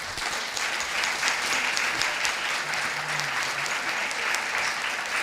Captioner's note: audience appluading